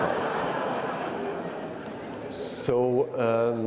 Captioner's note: attendees laughing